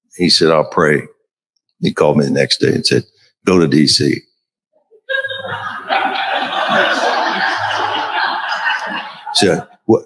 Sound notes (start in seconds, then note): 5.1 crowd laughing